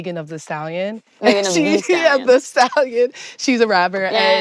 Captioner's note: laughing